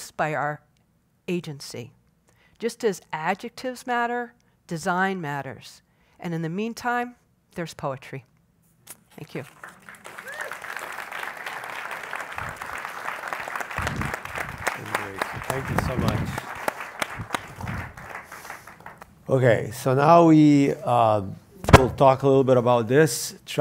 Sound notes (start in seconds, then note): 10.0 applause